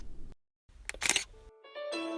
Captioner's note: camera click